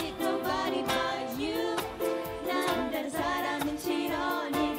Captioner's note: korean